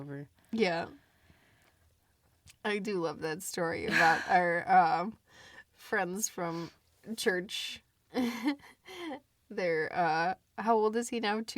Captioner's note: laughs